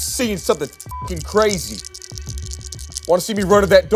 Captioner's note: beep